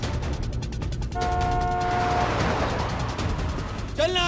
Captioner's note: honking